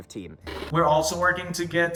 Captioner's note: TV noise